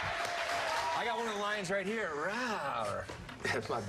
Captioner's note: cheers and applause